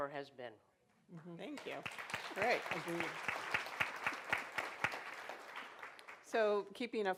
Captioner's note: applause